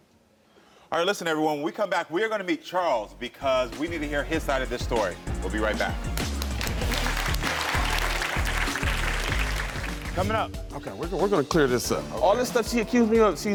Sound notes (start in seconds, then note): 6.0 audience applauds